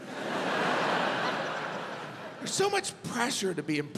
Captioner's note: audience laughs